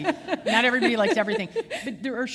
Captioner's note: chuckle